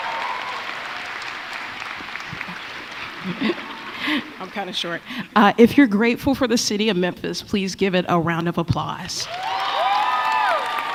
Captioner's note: applause; applause